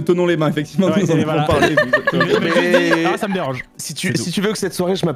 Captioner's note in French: rires